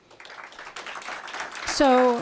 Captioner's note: applause